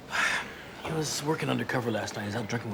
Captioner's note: sighs